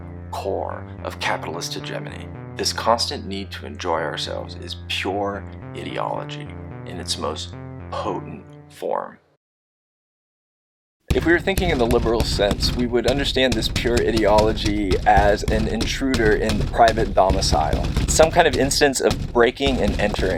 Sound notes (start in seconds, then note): 8.1 loud banging, implying an intruder